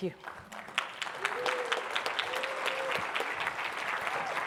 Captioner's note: audience applauding